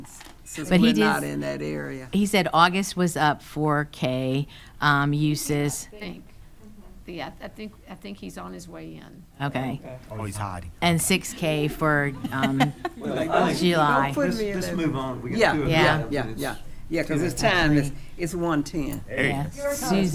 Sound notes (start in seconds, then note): 5.9 speaking quietly; 11.9 laughing